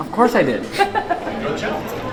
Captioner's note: laughs